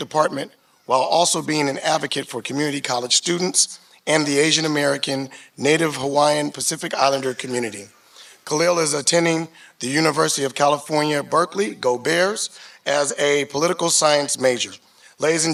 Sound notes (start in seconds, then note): none